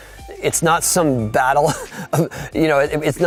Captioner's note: laughing